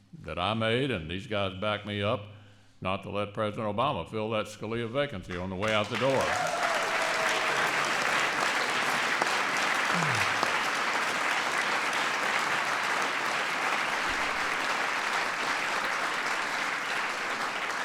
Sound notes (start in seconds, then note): 6.2 applause